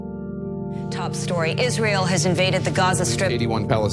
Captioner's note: news soundbites